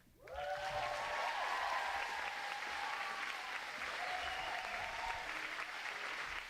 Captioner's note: audience cheering and applauding